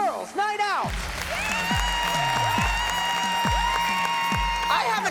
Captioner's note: cheering, applause